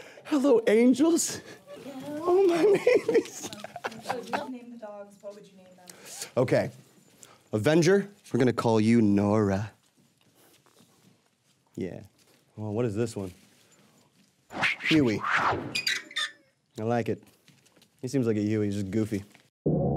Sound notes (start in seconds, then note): 2.2 laughing; 19.8 upbeat music